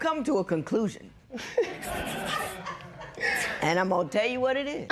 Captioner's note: laughter